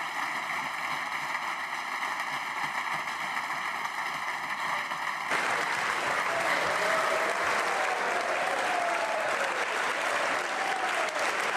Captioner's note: applause